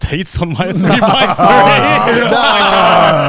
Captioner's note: everyone laughs